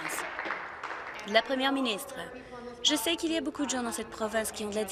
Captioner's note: applause